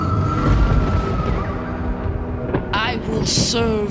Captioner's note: lightning crashes